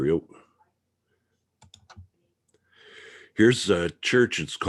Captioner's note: mouse clicking